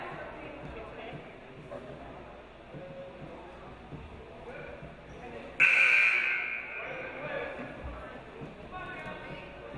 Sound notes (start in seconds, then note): 5.6 game buzzer buzzes